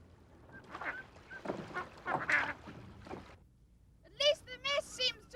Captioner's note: birds squawking softly